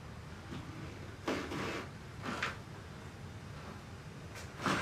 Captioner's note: floor creaks